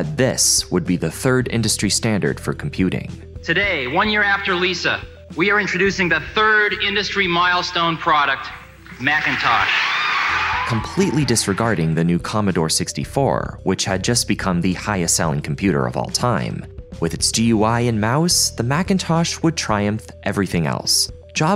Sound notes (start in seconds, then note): 8.9 audience cheering